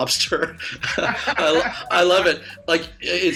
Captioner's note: laughs